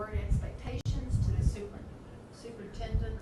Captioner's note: none